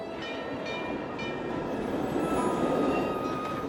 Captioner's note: trolley bell ringing